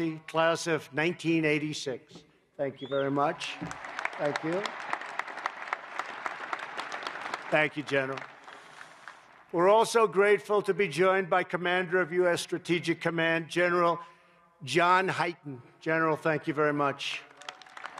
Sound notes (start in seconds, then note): 5.0 applause; 17.1 applause